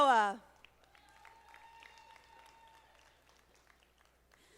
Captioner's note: audience applauding